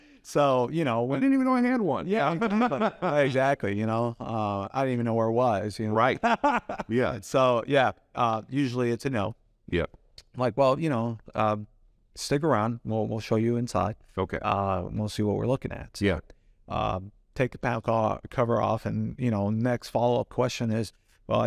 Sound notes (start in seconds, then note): 0.0 both laugh; 6.1 laughs